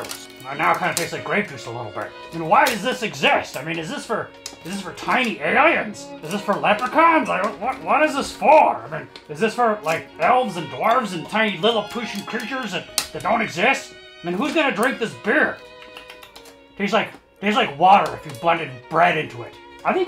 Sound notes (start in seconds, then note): 15.6 lip smacking